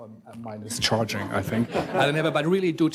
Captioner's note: everyone chuckles